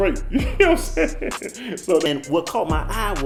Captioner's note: laughs